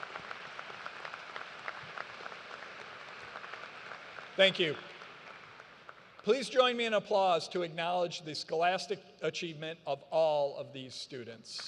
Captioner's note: applause